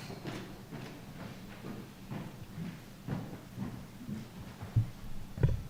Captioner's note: heavy footsteps